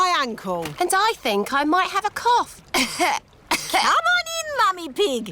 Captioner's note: coughs